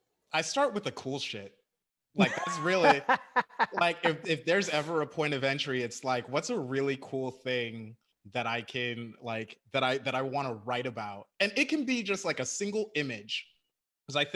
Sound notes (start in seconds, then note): 2.2 laughs